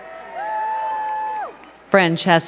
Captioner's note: crowd cheering and clapping